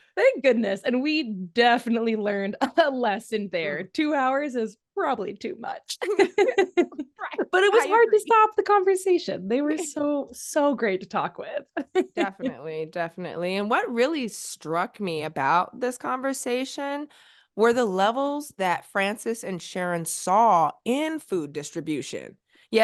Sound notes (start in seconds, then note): 6.0 laughter; 11.8 laughs